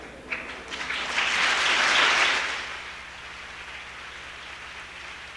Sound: applause

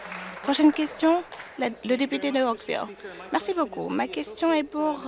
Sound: applause

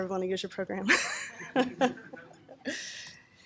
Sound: laughing

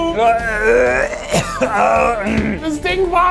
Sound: man coughing

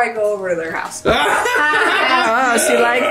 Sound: laughs

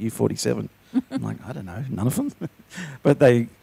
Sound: chuckles

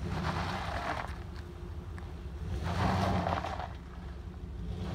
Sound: spinning tires

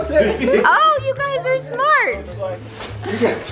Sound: laughing

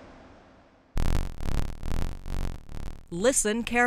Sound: buzzing

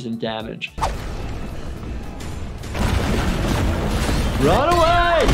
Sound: monster footsteps banging

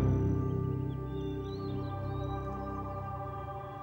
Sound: birds chirping

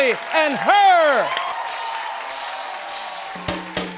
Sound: audience cheers

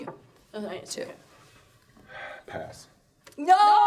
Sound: sighing

